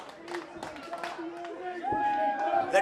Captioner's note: crowd chanting